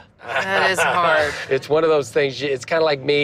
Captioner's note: laughs